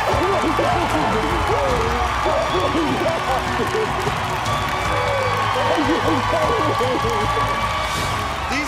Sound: cheers and applause

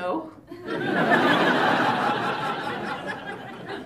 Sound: laughter

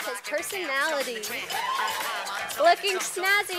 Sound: cheer from audience

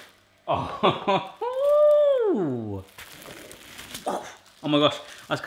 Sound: sounds of exclamation

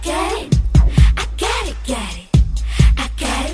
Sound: none

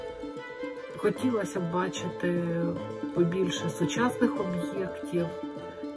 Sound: speaking Ukrainian

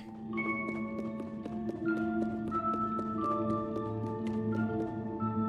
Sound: quick footsteps

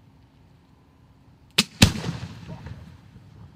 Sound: small pop followed by small boom

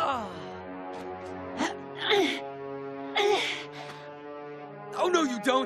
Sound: groaning

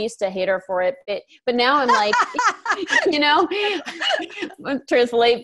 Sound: laughs

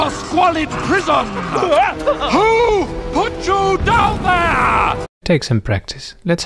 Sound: screams

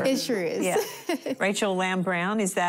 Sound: laughing

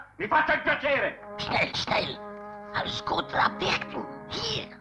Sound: German language

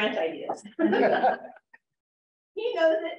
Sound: laughter

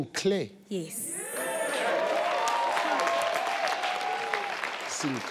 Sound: audience cheering

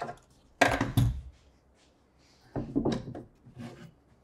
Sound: tools thudding

